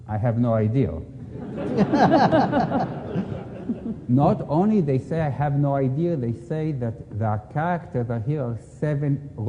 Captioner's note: laughter